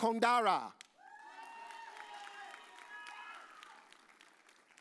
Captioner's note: audience cheers